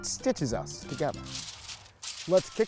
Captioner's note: paper crumpling